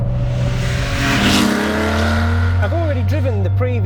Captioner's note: car engine roars